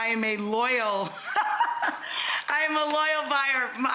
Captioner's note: Rachel laughs